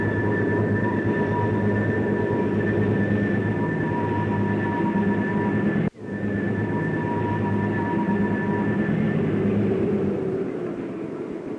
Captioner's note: sound of train moving